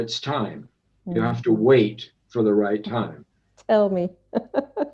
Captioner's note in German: lachen